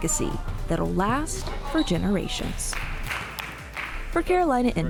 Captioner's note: claps